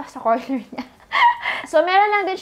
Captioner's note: chuckles